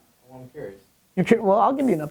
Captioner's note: voiceover